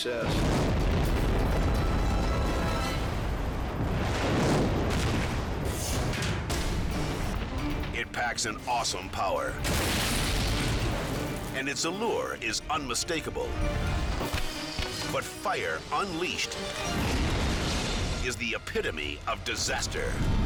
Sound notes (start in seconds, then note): 0.1 explosion booming; 5.8 logo swooshing; 9.6 explosion booming; 16.9 explosion booming